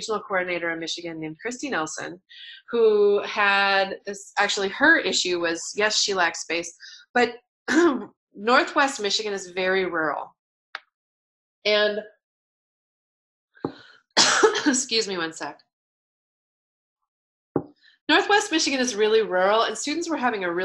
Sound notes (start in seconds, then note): 14.2 cough